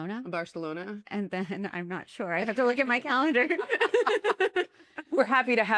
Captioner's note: laughter